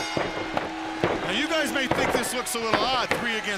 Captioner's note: bell ringing